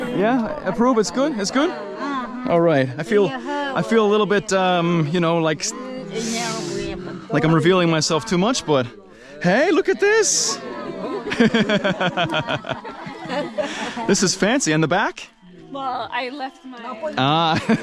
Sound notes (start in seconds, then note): 11.2 laughing; 17.4 laughing